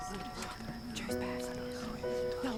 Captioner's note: whispering